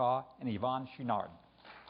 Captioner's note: applause